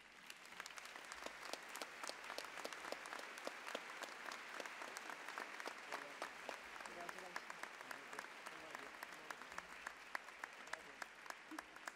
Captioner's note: applause